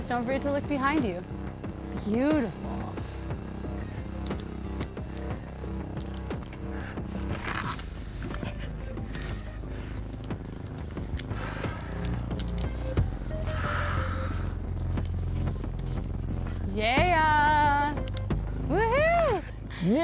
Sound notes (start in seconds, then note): 9.0 breathes heavily